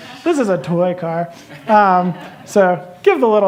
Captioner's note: laughter